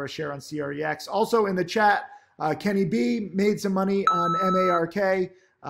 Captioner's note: alarm beeps